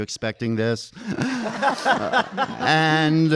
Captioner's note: audience laughing